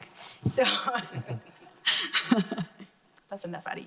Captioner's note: laughing